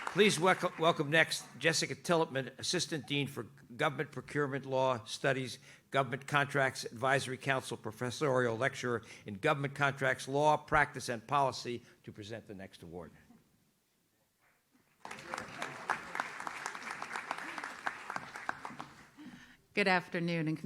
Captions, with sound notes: Please welcome next Jessica Tillipman, Assistant Dean for Government Procurement Law Studies, Government Contracts Advisory Council Professorial Lecturer in Government Contracts Law, Practice and Policy to present the next award. (audience claps) - Good afternoon,